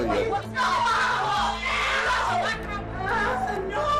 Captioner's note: screaming